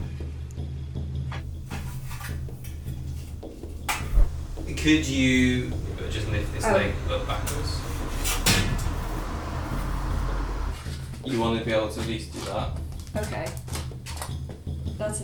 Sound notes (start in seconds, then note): 1.8 metal clanking; 8.5 metal thuds